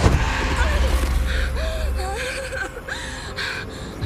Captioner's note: painful cry